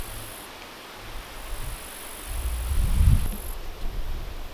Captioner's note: bugs chirping